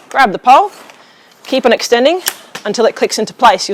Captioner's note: pole clicks